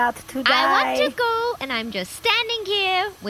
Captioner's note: passive-aggressive